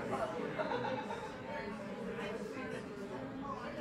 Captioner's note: laughing